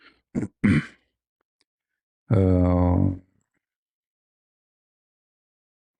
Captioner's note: clears throat